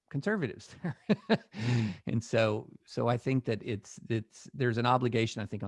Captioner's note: laugher